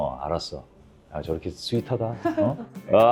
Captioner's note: ba-dump